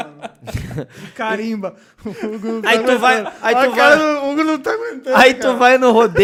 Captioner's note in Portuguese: risos